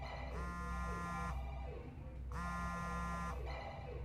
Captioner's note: phone vibrating